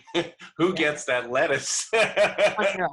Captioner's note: laughter